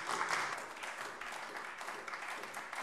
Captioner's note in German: Beifall AfD